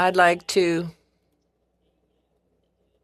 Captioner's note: speaking French